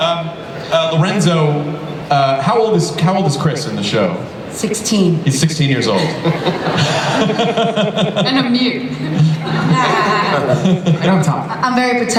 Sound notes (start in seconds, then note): 5.9 laughter